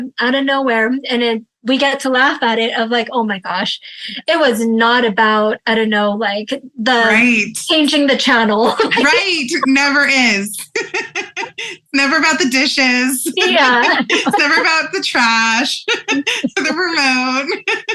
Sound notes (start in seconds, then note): 13.0 laughs